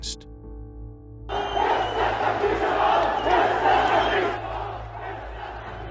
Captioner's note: chanting